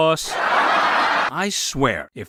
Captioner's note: laugh track